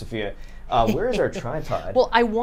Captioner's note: snickers